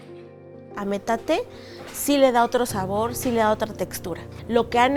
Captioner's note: speaking foreign language